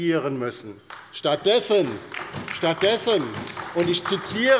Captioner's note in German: Beifall bei der LINKEN und der SPD